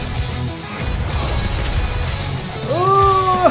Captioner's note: explosions blasting